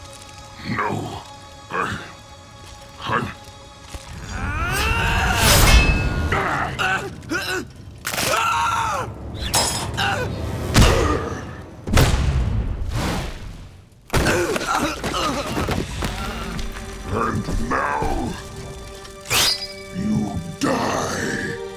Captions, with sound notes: No. I... I'm- [grunting] [grunting] [screaming] [grunting] [groaning] And now... you die.